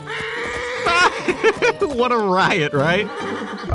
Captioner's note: laughing